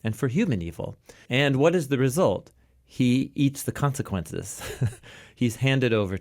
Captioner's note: laughs